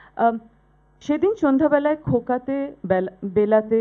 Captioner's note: speaking bengali